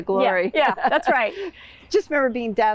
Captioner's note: laughing